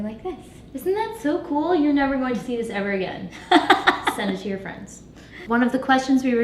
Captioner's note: laugh